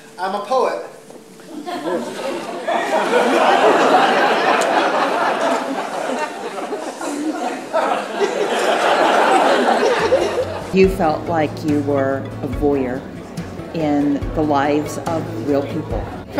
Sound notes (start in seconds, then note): 1.4 audience laughs; 7.8 audience laughs louder